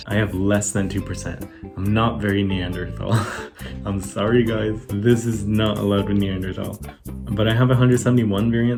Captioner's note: laughs